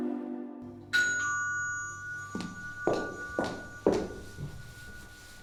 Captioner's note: ding-dong